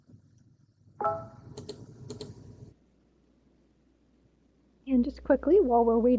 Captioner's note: notification chimes